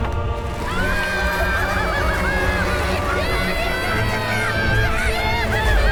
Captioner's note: Kobolds cheering